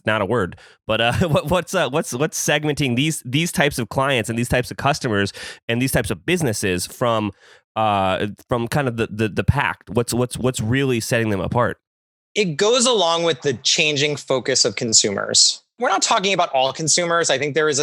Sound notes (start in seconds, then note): 0.9 laughs